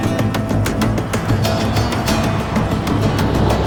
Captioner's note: airplane engine whizzing